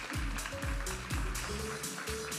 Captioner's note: audience applauding; upbeat music